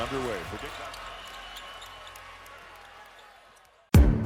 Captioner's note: crowd cheering; upbeat motivational music